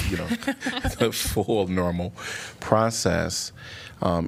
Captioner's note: laughter